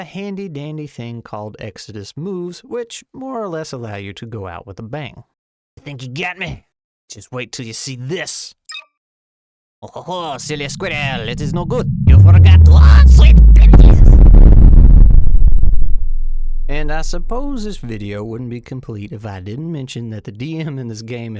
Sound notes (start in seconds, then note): 8.7 beep; 15.3 distant explosion